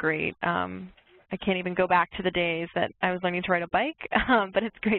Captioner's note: laughs